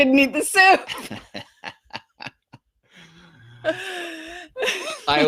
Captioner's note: both laughing